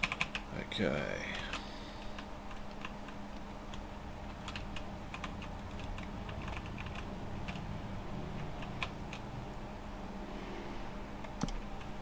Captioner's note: typing